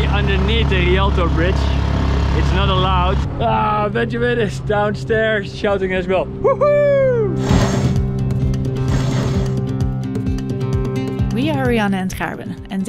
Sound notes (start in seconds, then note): 7.2 upbeat music; 7.4 motor whirring